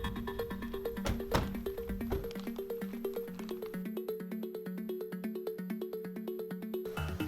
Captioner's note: doors thud; bright music continues